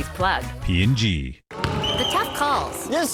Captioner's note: whistle